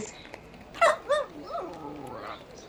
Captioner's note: a dog barks